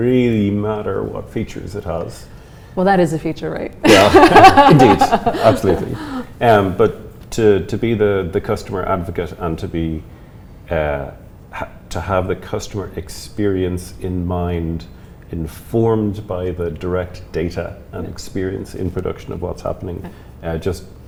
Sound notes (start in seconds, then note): 3.8 laughs